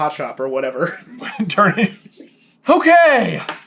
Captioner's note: laughs